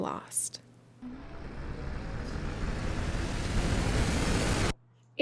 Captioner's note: building up screeching horror sound